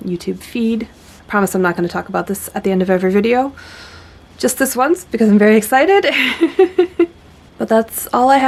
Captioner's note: giggles